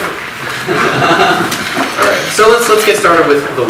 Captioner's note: audience laughs